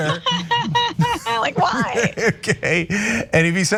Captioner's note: laugh